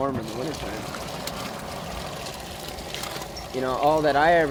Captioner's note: liquid sloshing